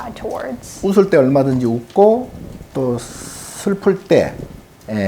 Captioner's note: speaking Korean